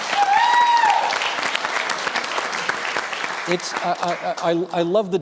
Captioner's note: applause